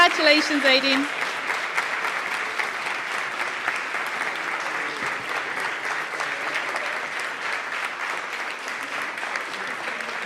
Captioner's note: applause